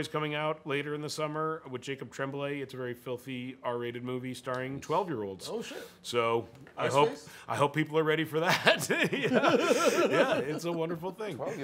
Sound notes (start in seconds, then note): 8.4 laughter